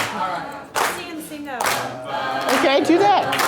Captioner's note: voiceover